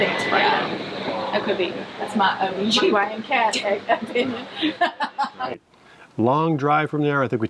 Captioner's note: chuckles